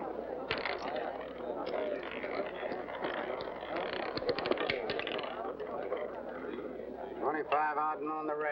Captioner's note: roulette ball rattling